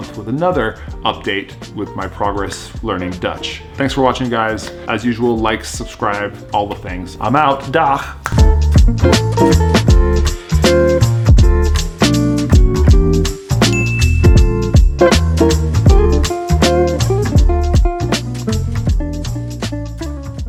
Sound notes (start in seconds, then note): 8.2 snaps fingers; 9.2 upbeat music